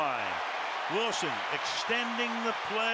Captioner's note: cheering